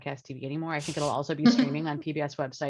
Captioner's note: laughs